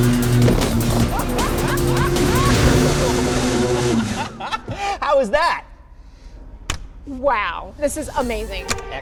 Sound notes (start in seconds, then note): 3.2 laughing